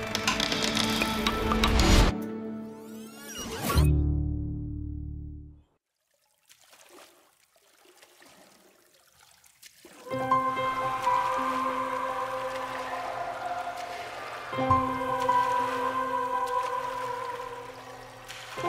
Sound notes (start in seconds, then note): 8.0 paddles splash